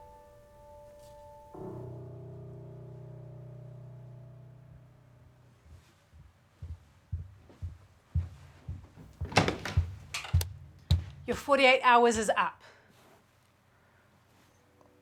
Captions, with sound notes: (ominous music) (footsteps approaching) - Your 48 hours is up!